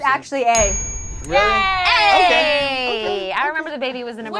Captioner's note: overlapping chattering